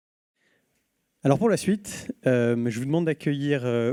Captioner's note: speaking french